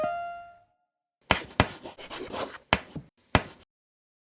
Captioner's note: chalk writing